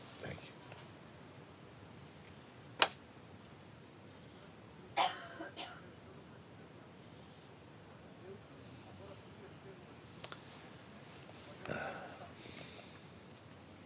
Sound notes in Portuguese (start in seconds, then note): 3.1 silêncio